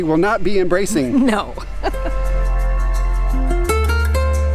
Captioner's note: laughing; laughs; relaxed music